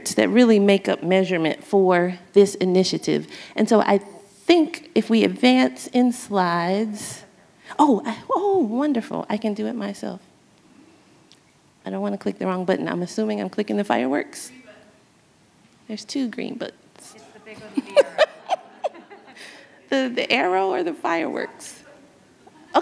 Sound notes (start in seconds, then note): 17.5 laughs